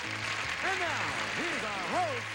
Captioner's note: audience applauding